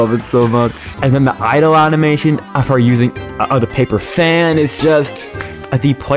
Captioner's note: claps